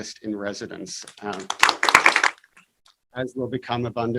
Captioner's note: applause